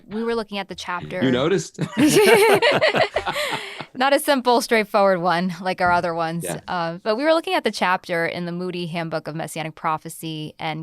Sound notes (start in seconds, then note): 1.8 panelist laugh